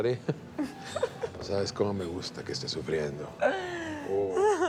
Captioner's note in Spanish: Risas